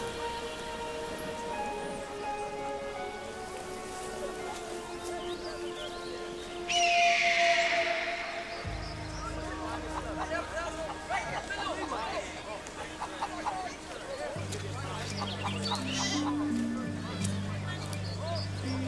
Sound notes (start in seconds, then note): 6.7 cawing